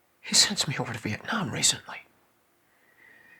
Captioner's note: none